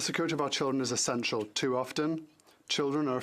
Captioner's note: speaking French